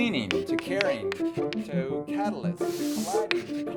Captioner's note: dialogue fades